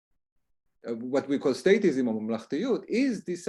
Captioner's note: hebrew